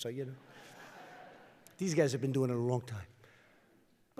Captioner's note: laughter